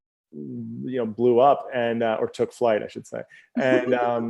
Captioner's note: laughs